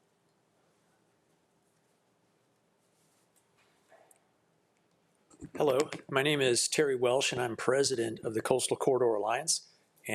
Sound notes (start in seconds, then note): none